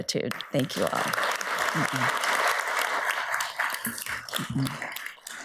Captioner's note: audience applauds